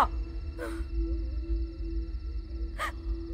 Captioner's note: Amal crying